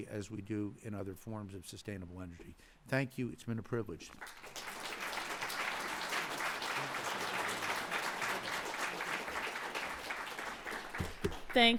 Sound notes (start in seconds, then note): 3.4 applause